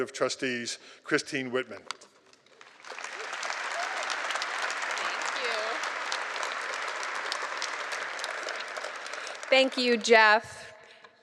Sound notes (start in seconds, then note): 4.0 applause